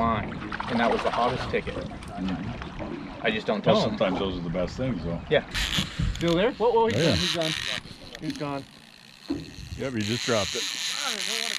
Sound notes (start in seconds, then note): 7.1 reel cranking; 10.7 reel cranking